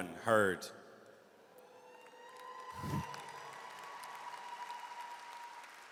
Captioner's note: audience cheers and applauds